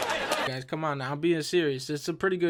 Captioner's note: laughter cuts off